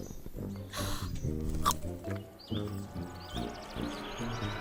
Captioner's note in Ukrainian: Смачно хрумкає